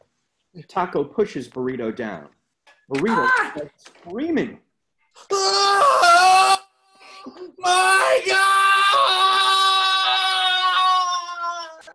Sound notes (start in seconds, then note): 2.5 screaming; 5.2 screaming